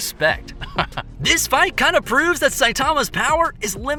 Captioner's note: dry chuckle